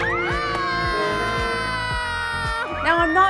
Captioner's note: dramatic music; all screaming